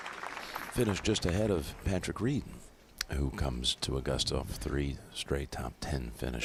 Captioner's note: applause